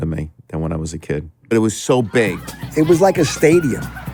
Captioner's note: neighbors chattering; crowd cheering